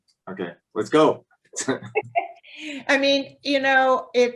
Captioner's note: laughter